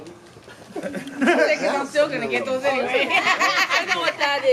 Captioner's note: laughs